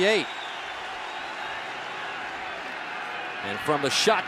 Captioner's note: cheering